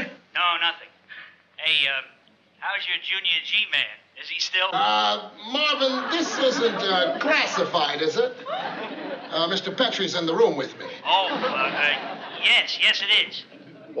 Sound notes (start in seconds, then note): 0.4 on walkie-talkie; 11.3 on walkie-talkie; 13.2 laughing